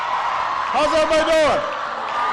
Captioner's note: applause